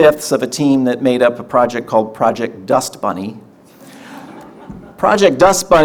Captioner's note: audience laughter